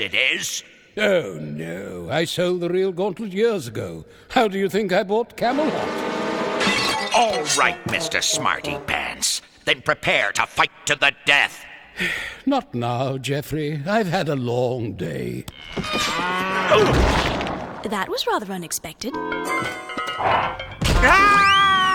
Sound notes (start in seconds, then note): 12.0 sighing; 16.6 crashing; 20.9 screaming